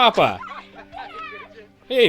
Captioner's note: laughing